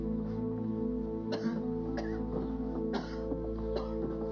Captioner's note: heavy coughing